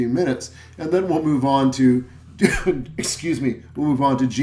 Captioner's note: cough